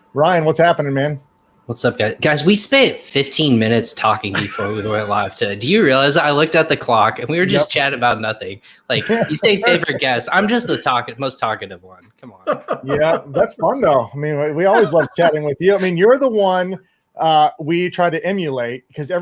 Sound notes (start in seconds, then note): 14.6 laughs